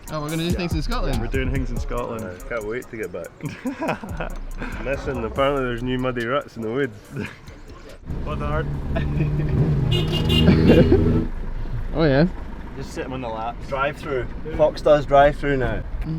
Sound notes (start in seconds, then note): 3.3 laughing; 9.6 horn honking